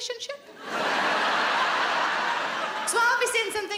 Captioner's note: audience laughing